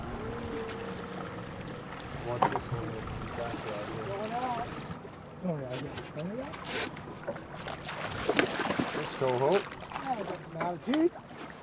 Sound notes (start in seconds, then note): 2.2 background chatter; 7.1 fish splashing